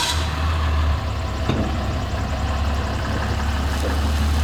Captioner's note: truck engine revving